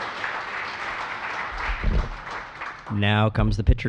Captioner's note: applause